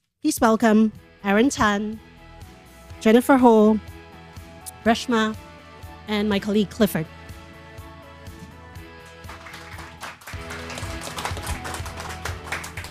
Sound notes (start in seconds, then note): 8.9 applause